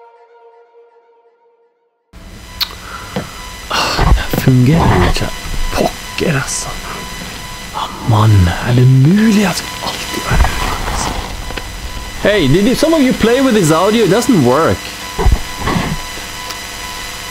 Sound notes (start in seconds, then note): 3.7 speaking a strange foreign language